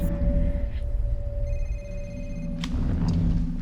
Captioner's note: phone rings